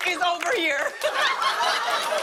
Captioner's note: laughter